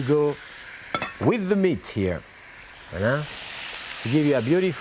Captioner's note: food sizzling